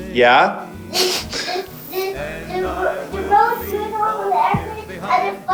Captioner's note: laughs; speaking off camera